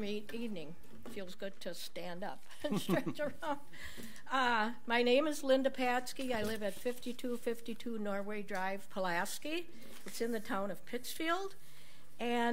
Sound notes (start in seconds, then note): 2.7 laughs